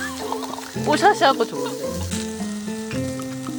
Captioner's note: laughter